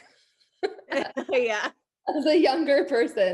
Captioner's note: both laughing